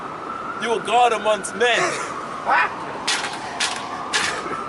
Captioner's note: laughing